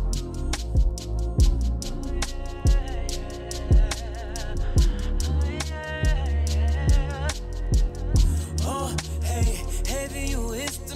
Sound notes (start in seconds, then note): none